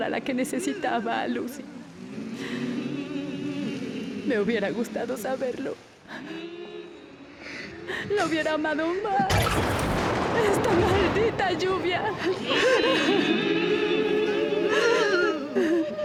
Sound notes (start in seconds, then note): 9.3 thunder; 10.2 sobs